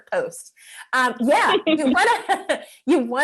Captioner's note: laughing